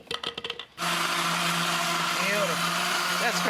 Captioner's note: blender grinds